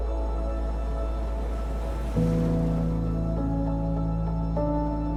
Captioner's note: gentle wistful music; waves crashing